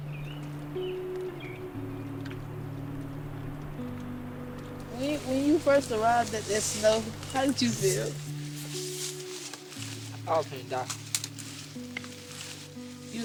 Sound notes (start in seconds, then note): 0.0 birds chirping; 0.6 peaceful music